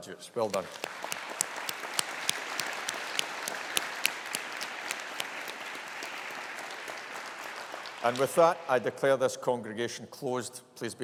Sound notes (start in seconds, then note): 0.5 audience applauding